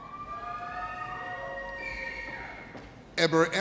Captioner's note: audience cheers